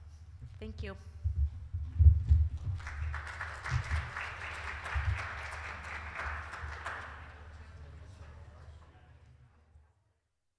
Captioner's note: applause